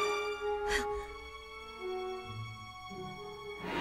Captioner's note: dramatic music; gasps